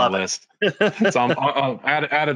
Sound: laughing

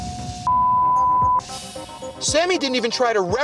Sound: beep

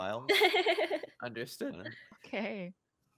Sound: laughing

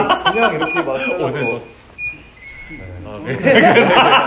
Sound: beep beep beep beep

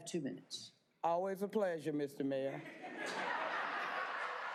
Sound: applause

